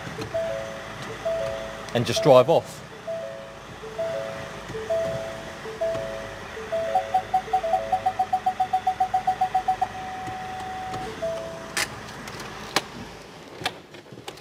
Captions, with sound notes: and just dirve off (van parking sensor beeps)